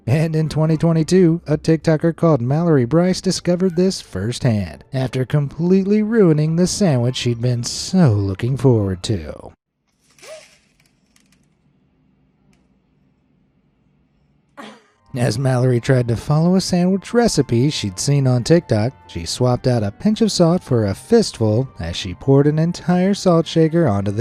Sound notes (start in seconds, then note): 10.5 gasps; 14.7 laughs